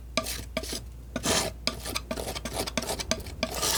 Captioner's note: scratching